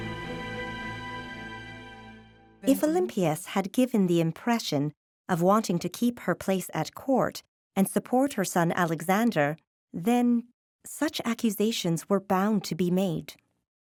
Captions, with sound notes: [music fades] [in German] If Olympias had given the impression of wanting to keep her place at court and support her son Alexander then such accusations were bound to be made.